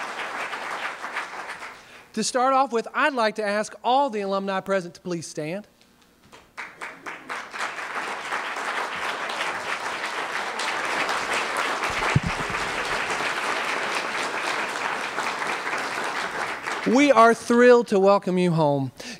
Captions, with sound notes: [applause] To start off with, I’d like to ask all of the Alumni present to please stand. [applause] We are thrilled to welcome you home.